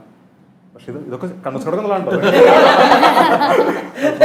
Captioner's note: laughs